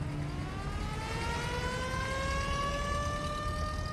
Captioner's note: ambulance siren wailing